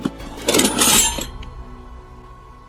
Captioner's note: clank